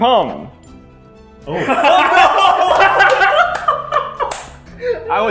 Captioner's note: crazy laughter